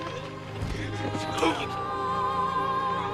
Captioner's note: groans